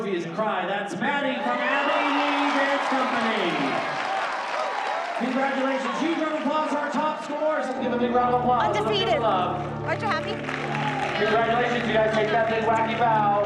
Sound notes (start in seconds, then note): 3.4 applause